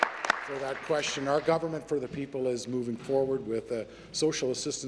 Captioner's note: applause